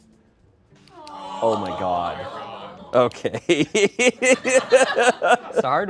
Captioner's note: laughs